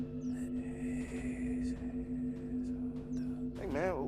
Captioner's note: Remy whispers eerily